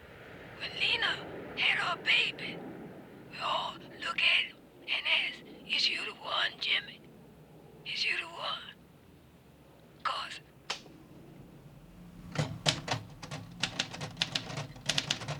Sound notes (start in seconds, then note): 10.7 click; 12.2 typing